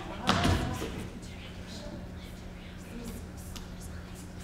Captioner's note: group whispering